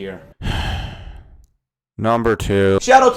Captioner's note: sigh